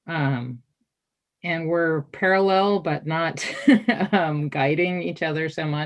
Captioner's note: chuckles